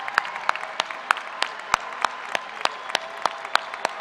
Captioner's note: applause